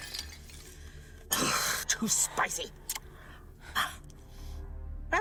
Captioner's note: huffs